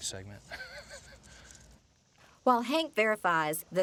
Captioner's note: laughs